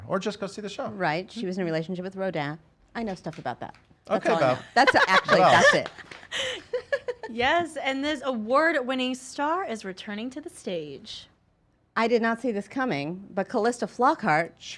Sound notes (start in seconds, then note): 6.4 laughs